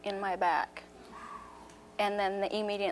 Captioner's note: Sally exhales sharply